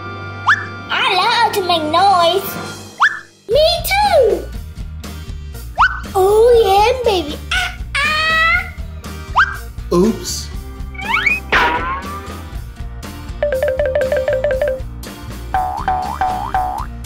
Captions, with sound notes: - I love to make noise! - Me too! - Oh yeah, baby! Oh-oh! - Oops! (soft bang) (playful music)